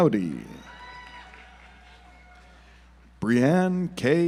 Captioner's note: audience applauds